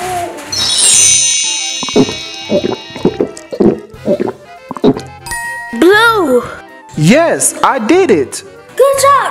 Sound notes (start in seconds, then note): 0.5 chimes; 2.2 gulping